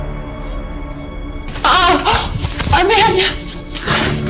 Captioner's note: woman groans